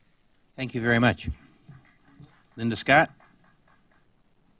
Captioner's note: applause